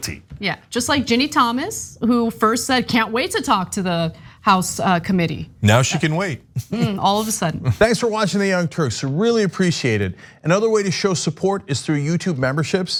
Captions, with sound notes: >> Yeah just like Jenny Thomas who first said can't wait to talk to the house committee. >> Now she can wait [LAUGH]. >> All of a sudden